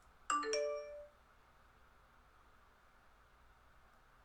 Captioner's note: Facebook notification